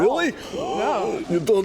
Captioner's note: restricted airflow noises